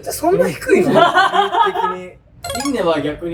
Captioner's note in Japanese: 笑い声